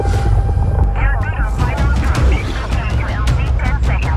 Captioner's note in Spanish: ruido de la radio